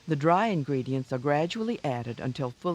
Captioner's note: voiceover